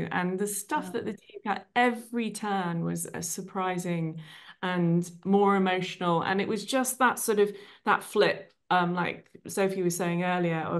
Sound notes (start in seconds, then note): none